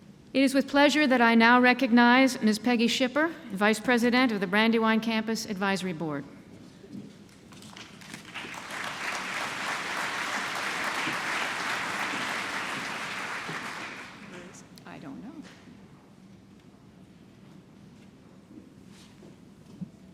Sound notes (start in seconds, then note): 7.6 applause